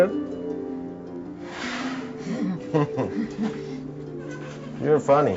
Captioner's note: both chuckle